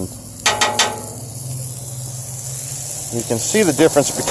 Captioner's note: clangs